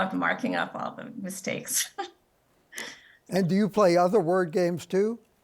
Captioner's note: laughs